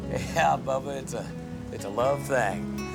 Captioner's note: groans